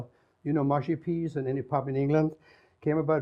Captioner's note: none